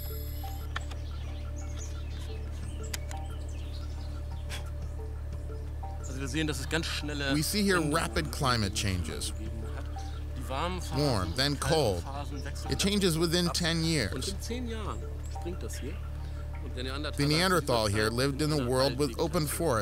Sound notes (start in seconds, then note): 4.3 blowing; 6.3 speaking in German; 7.3 voice-over